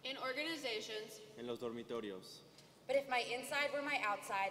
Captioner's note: speaking native language